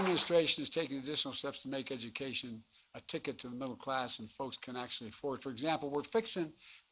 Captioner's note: applause